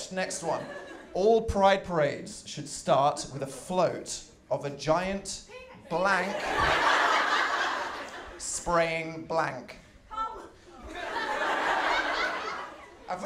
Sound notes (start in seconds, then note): 6.2 laughter; 10.8 laughter